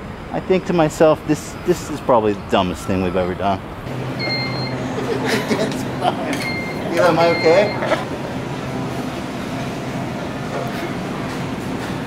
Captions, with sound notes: I think to myself, this- this is probably the dumbest thing we've ever done. [Mobility scooter beeps] Hila, am I okay?